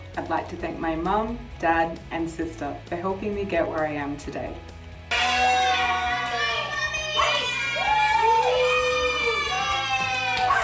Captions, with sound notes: - I'd like to thank my mum, dad and sister for helping me get where I am today. (cheering) - Go mummy, woo! Yay!